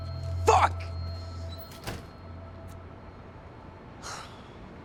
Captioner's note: door shuts; sigh